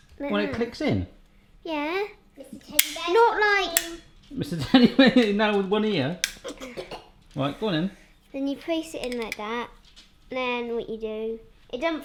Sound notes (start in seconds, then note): 4.6 laugh